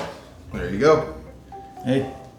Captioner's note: blows out